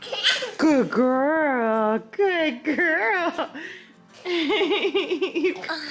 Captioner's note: giggles; laughs